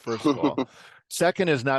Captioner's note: laugh